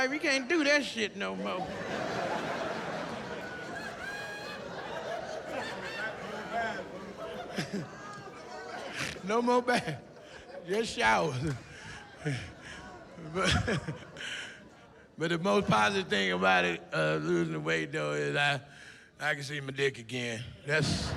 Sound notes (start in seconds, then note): 8.4 laughs; 14.0 laughs